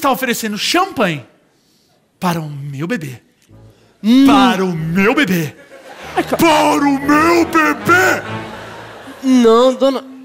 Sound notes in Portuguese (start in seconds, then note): 6.3 grita